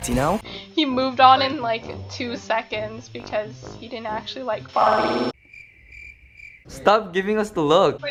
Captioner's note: awkward cricket sounds